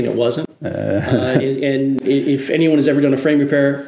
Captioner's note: laughs